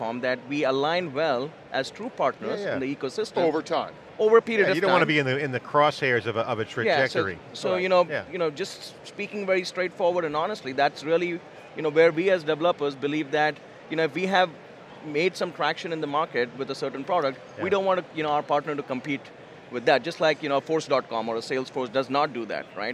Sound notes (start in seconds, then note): 3.6 voiceover